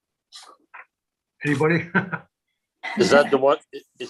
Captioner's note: giggles